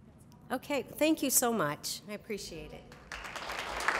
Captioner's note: applause